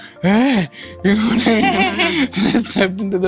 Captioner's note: laughter